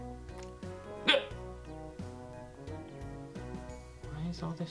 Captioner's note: hiccup